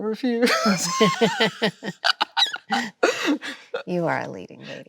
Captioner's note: both laughing